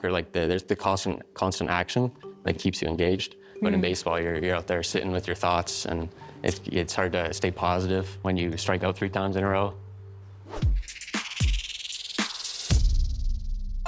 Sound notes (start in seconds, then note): 10.3 air whooshes; 10.4 upbeat music